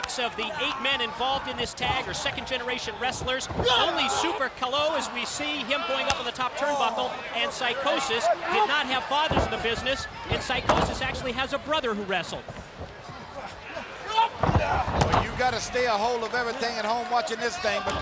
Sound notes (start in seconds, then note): 5.6 hands thudding; 12.5 body thudding; 12.5 footsteps plodding